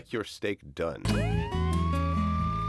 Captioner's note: siren wailing